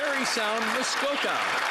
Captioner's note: some Applause